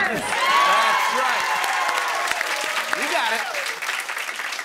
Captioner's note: cheering and applause